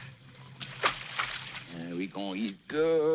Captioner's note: water splashing